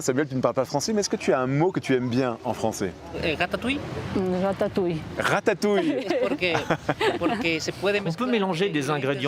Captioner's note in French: rires